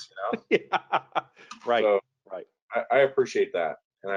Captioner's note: laughing